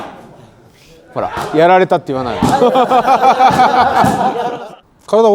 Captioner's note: laugh